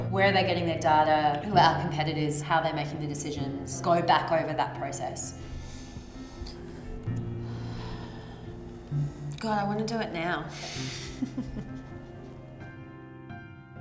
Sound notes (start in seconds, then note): 7.5 sighing; 11.0 chuckles